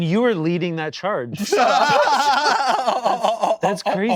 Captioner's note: laughing